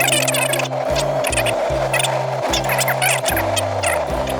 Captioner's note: video rewinding